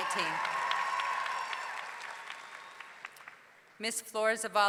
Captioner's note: audience cheering; audience clapping